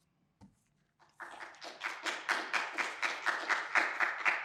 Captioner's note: audience applauding